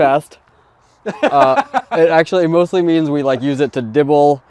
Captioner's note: laughing